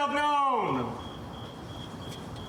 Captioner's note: crickets chirping